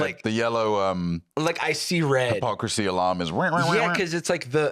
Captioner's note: beeping